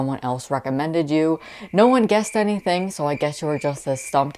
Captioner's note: crickets chirping